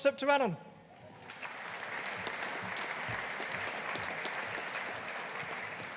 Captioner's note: audience applauding